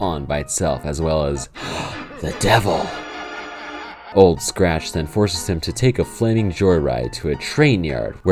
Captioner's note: gasp